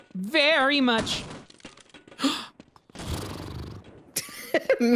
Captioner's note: gasps and lip trills; laughs